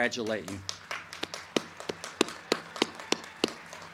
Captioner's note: crowd cheering